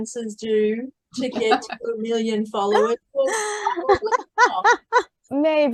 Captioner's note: everyone is laughing